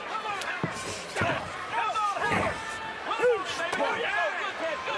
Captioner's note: foot thudding